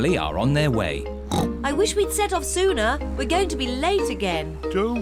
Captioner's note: snorts